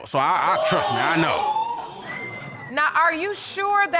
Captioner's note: audience exclaiming wildly